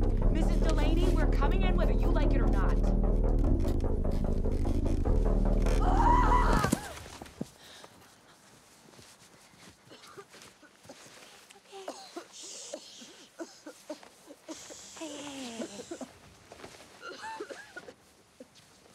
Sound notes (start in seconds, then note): 5.8 Delaney screaming; 11.7 Delaney coughing